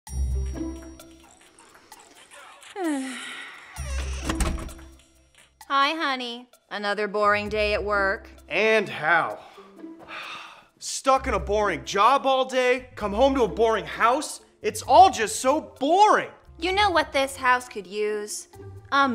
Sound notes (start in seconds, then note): 0.1 soft music; 1.8 sighing; 3.7 door closing